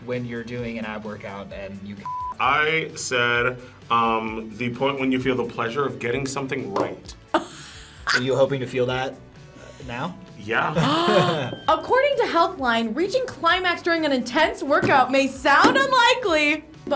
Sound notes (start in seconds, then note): 7.3 React laughs; 10.7 laughs; 11.0 React gasps